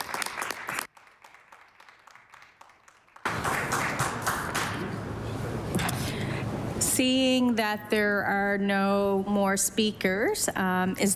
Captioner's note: applause